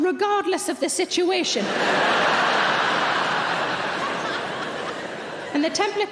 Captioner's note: audience laughing